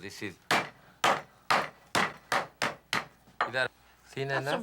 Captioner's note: pounding